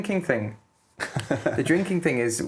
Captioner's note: laughing